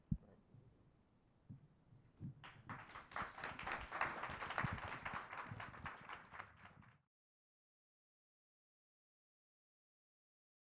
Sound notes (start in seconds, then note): 2.4 audience applauds